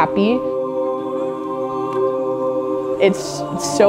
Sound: voices blending

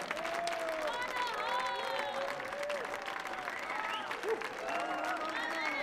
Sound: audience applauding

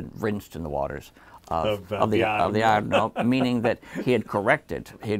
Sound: laughs

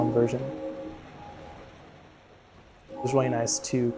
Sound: bell ringing

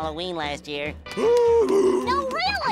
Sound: grunting

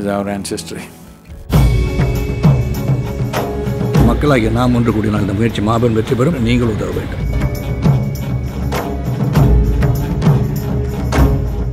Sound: audio in Tamil – not transcribed

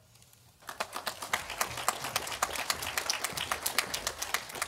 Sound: audience applauding

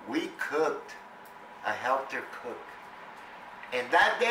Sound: none

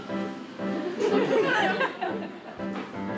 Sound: sexy jazz music; audience laughter

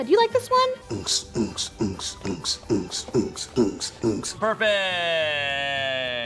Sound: beat boxing noises

